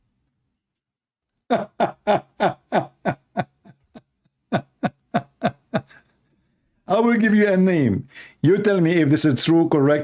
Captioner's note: Ketawa